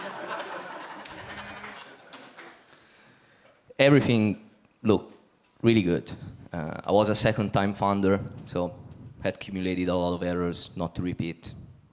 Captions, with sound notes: (audience laughs) Everything looked really good. I was a second time founder, so had accumulated a lot of errors not to repeat.